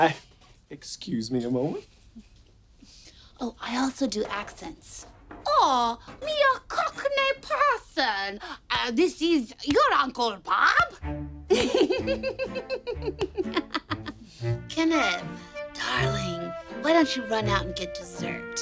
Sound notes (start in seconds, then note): 4.5 bad accent imitation; 11.5 laughing